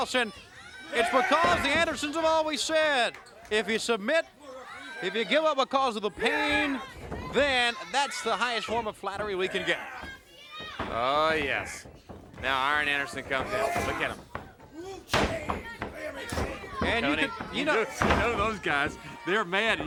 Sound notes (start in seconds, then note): 14.9 Arn grunting; 16.4 crowd cheering; 16.4 wrestlers faintly speaking